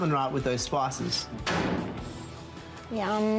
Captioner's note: shuts oven